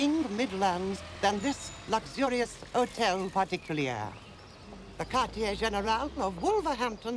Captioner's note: french